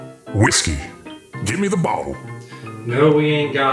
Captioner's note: voiceover